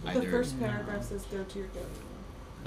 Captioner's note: background talking